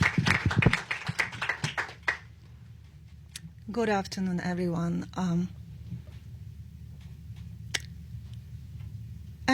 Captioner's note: applause